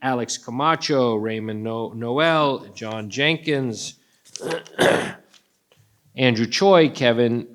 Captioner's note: clears throat